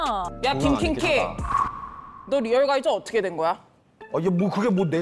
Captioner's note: sound effect of the next one up